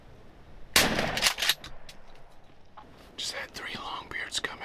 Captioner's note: gun firing